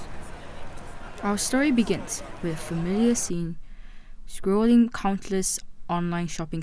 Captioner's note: voice-over